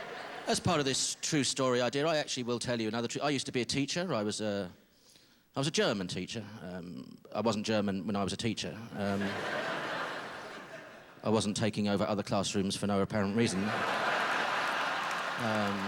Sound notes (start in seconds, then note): 9.1 laughter; 15.6 laughter